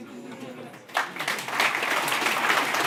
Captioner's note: applause